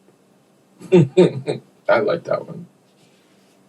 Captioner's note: laughter